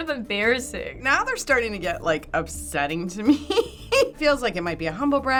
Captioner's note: laughs